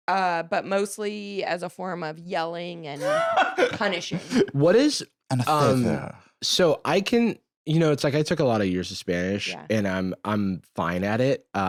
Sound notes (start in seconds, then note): 4.8 lisping